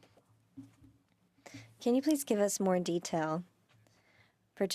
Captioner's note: speaking French